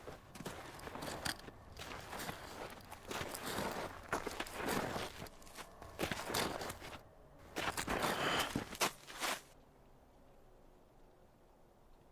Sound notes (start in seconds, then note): 2.3 metal scraping